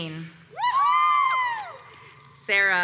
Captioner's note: crowd cheers